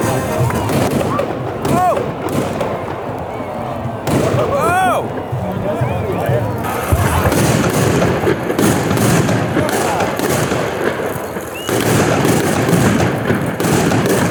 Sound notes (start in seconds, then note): 1.6 big explosions and oh-ing